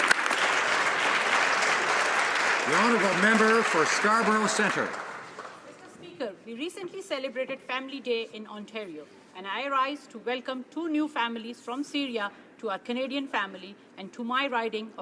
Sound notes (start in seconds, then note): 2.8 applause